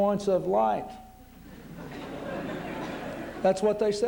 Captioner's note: laughter